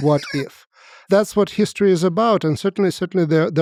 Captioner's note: Lex laughs